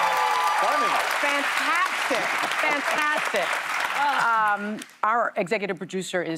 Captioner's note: cheers and applause